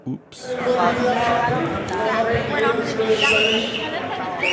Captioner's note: crowd chatter; whistles